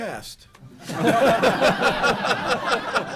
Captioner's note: laughter